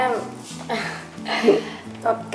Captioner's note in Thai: หัวเราะ